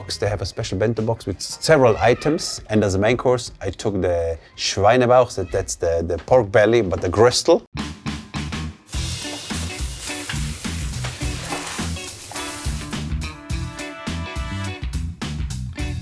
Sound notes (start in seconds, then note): 4.2 speaking foreign language; 8.8 meat sizzling; 8.9 upbeat music; 12.5 upbeat music continues